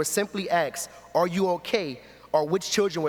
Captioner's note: none